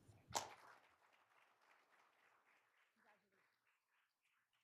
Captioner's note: all applauding